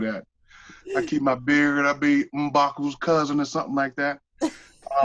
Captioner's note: laughter